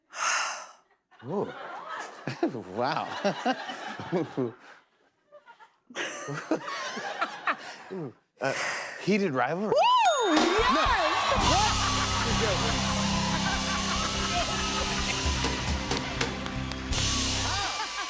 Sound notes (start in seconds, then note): 0.1 breathy sigh; 0.9 laughter